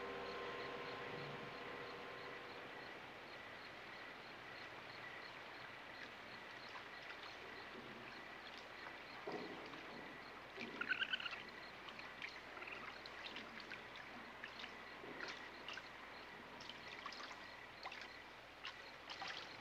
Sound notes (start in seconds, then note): 0.3 crickets chirping; 11.2 raccoon squealing